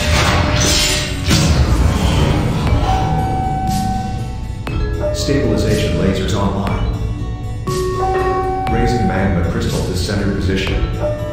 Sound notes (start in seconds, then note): 0.0 laser bootup sound; 0.0 laser fire sound; 7.4 announcement Chime